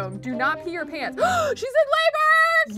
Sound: gasps

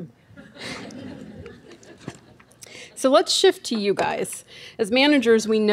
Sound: laughing

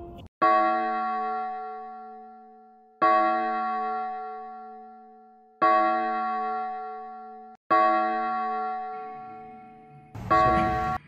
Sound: A bell tolling five times

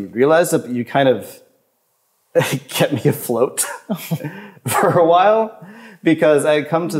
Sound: chuckles

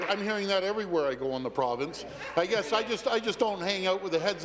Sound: applause

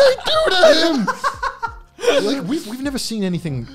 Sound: laughing

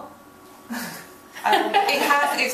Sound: laughing

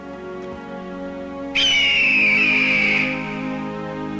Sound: eagle cries

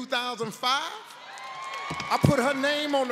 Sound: audience cheers

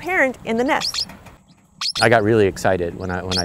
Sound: parrots chirping

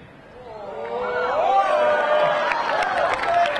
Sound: audience cheering; audience clapping

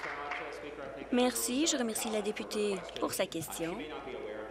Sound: applause

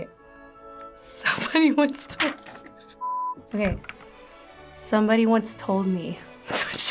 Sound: laughs

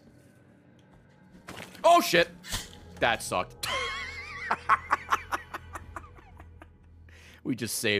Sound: laughs

